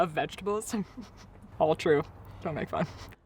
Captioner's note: chuckling